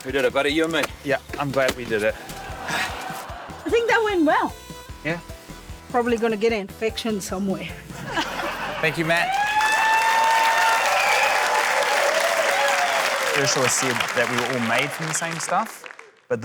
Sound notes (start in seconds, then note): 2.1 laughter; 10.8 cheering, applause